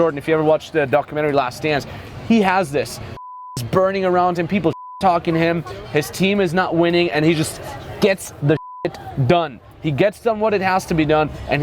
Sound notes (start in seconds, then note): 3.1 beep; 8.5 beep